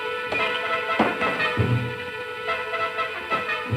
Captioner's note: thumps